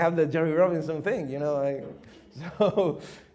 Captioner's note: chuckles